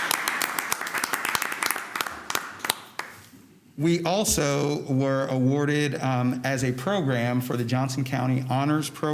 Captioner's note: applause